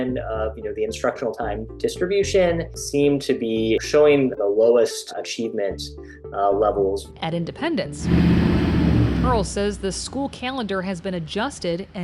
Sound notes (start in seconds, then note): 8.0 bus engine revving